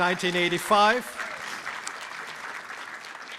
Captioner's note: applause